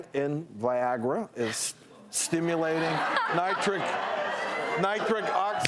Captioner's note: laughing